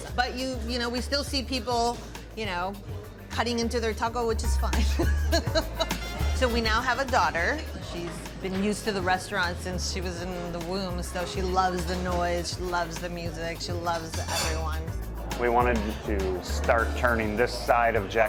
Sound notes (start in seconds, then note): 4.8 laughing